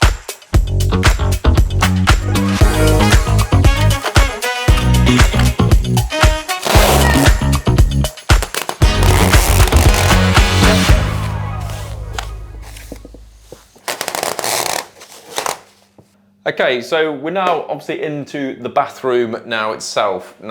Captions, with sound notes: (upbeat music continues) (upbeat music continues) (film screeching) Okay, so we're now obviously into the bathroom now itself.